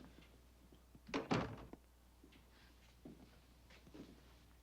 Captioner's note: door thuds